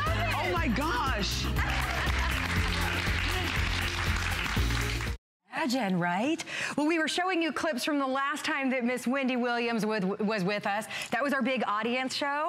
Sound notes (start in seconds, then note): 1.4 applause